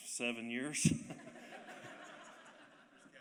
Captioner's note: laughter